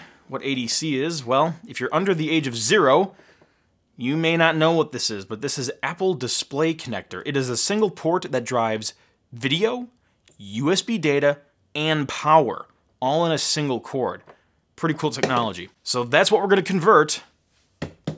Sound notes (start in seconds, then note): none